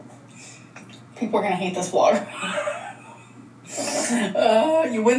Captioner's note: laughs